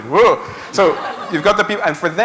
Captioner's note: laughter